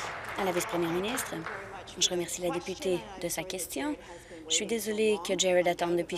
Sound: applause

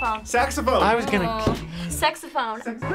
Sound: sighs

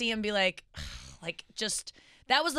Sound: sighing

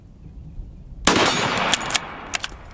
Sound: gun shot; ammo reloading

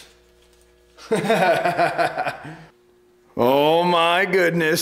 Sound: pleased laughter

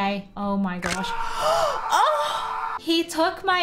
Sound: screaming noises

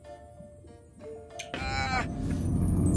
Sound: Fig groans

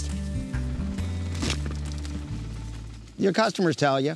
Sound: engine noise/corn dropping

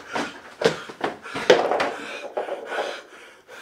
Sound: door latch clacks; footsteps stumbling; Cathelaya breathes heavy

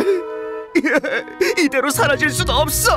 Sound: crying

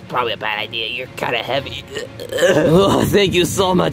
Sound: grunting

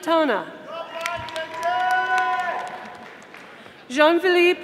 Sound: audience applauding

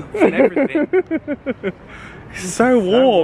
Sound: laughs

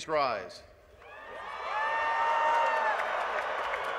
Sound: applause

